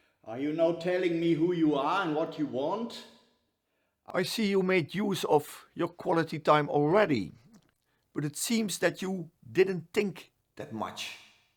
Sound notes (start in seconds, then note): none